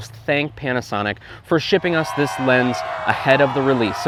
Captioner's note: crowd cheering